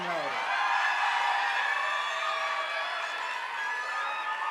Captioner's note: audience applauding